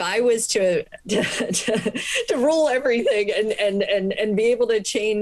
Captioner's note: laughter